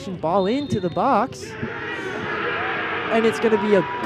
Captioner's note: cheering